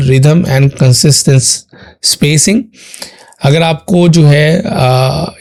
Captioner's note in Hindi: नाक से की जाने वाली आवाज़